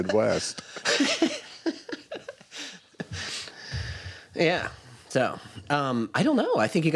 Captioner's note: laughs